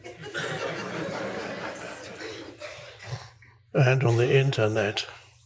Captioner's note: audience laughing